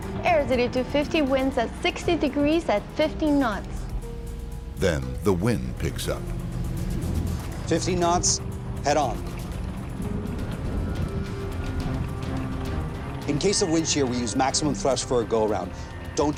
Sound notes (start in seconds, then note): 0.0 sinister music; 10.1 sinister music; 10.1 thunderstorm rumbling